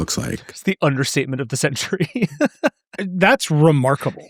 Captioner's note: laughing